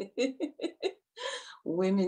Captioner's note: chuckles